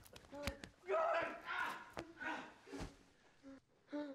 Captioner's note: groaning